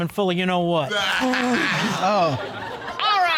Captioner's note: all laughing